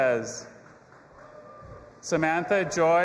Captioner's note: audience applauding and cheering